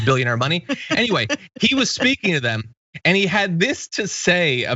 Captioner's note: laugh